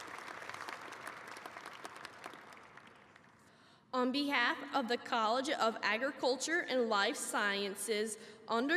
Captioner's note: applause